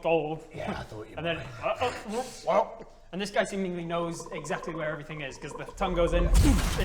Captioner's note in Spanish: croar